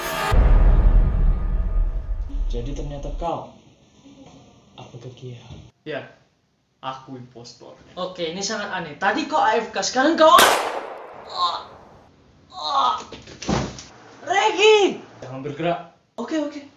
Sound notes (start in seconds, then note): 10.4 gun shot